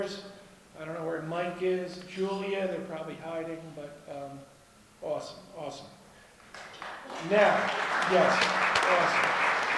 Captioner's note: applause